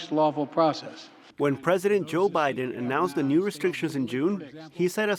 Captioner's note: voice-over